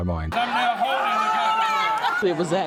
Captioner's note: audience claps and cheers